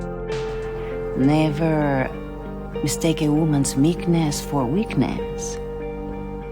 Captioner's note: voiceover